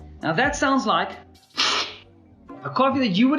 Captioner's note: slurping sound